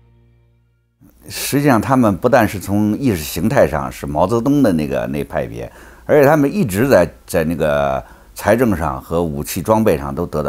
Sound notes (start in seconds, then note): 1.4 speaks in foreign language